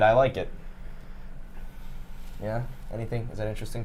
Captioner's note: sniffs